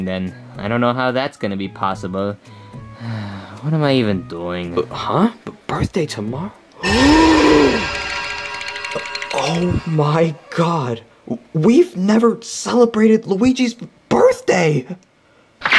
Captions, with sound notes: then I don't know how that's gonna be possible. (sighs) What am I even doing? - Huh? Birthday tomorrow? (Mario gasps) Oh my God. We've never celebrated Luigi's birthday.